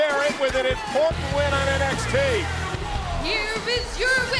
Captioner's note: bell ringing